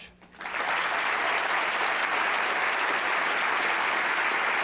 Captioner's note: applause